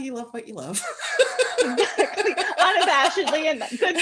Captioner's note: laughter